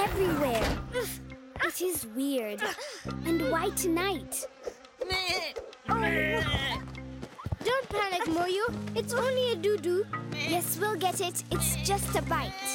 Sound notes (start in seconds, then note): 2.5 children grunting; 5.8 bleating